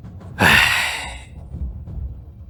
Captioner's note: sigh